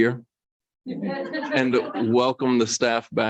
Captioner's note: light laughter